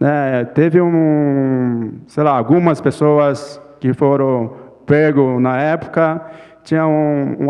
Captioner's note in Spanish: Ponente habla en portugués